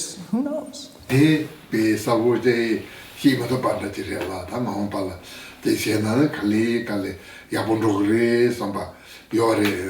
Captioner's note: foreign Language